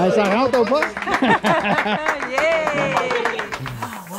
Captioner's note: applause